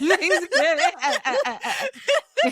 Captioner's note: laughing